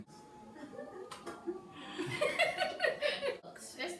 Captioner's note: giggle